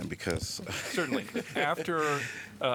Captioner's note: laughter